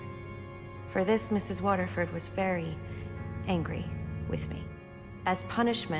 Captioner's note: voiceover